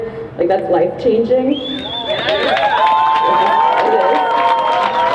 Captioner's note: crowd cheers